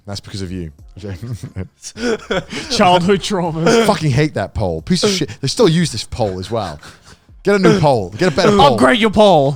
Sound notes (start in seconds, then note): 1.2 group laughs